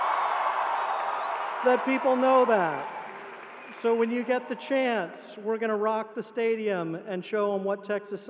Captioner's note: cheering